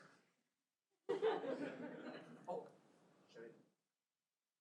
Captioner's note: audience laughs